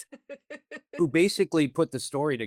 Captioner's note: laughs